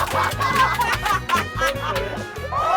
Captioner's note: everyone laughing hard